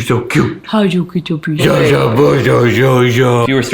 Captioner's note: babbling